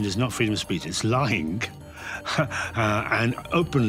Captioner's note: laughs